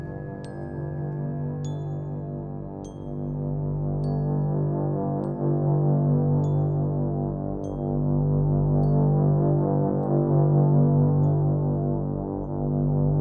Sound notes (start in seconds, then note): none